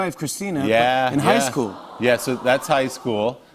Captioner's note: audience awws